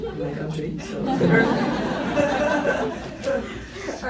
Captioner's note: laughs